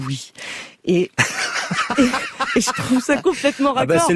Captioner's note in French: rires d'